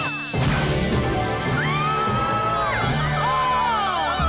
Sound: screaming

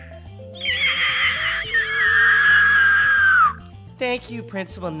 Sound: incoherent screeching

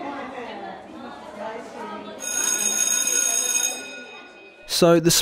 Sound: bell ringing over children chattering

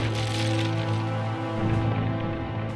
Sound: bomb blasts

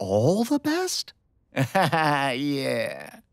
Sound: chuckles

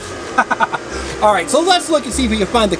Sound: laughing

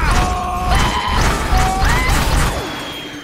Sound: loud howling noises

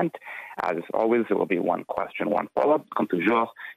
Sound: speaking French

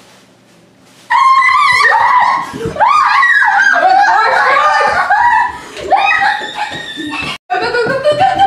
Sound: screams

